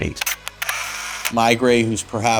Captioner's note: camera reel whirring